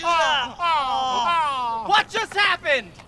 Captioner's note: both groaning